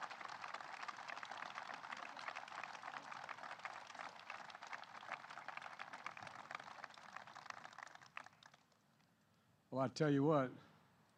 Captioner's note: applause